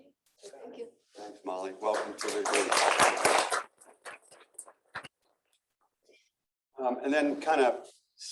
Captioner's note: applause